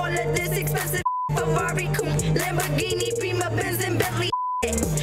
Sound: beep; beep

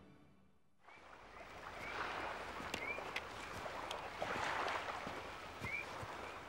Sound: waves lapping

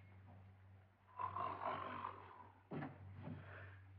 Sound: snoring

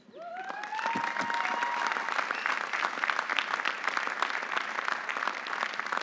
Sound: audience cheering; audience applauding

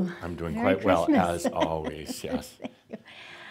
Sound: she chuckles

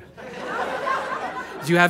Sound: audience laughter

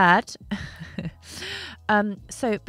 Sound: chuckles

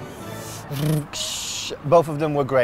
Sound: vibrates mouth

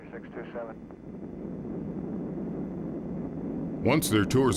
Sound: plane engine running

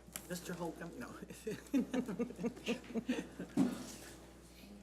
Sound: laughs

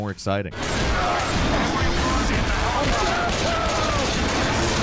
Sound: guns banging

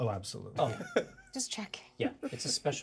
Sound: speaker laughs

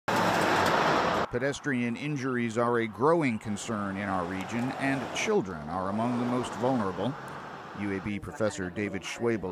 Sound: car Sounds

